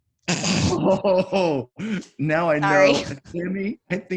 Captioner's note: chuckling